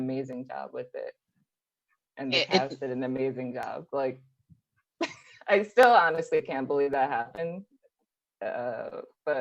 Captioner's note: laughs